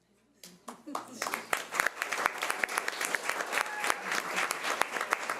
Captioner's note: audience applause